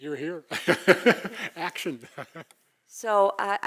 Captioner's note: laugh